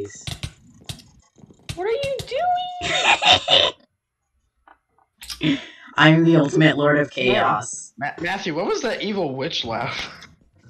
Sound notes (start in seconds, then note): 2.8 mad cackle